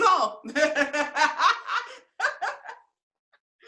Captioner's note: laughs